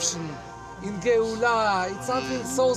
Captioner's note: speaking in Hebrew